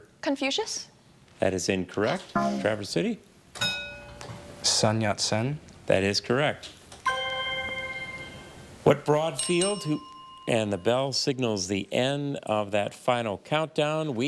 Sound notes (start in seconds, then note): 2.4 buzzer buzzes; 3.6 bell dings; 7.0 chime resonating; 9.3 bell dinging